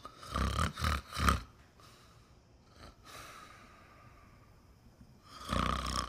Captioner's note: snores